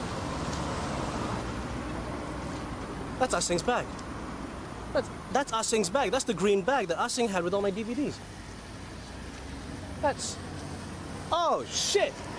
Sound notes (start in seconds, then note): none